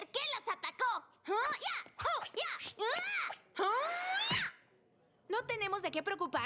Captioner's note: martial arts shouts